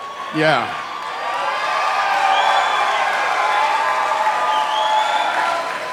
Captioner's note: applause